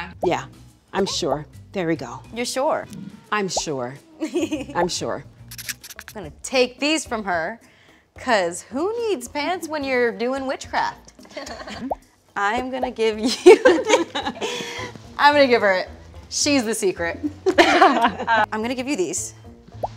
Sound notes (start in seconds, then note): 13.5 laughs; 13.6 all laugh; 17.4 laughs